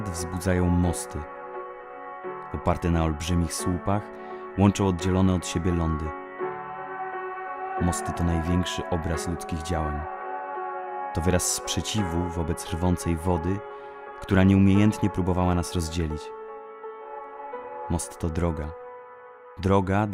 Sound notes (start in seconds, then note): 2.6 speaking native language